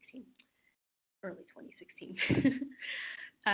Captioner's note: laughing